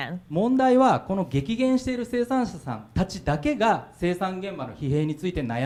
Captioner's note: speaking foreign language